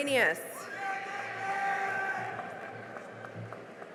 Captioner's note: cheering and applause